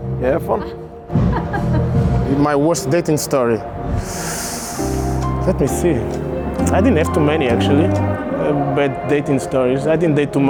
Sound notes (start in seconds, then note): 1.2 laughter; 3.9 sharp inhale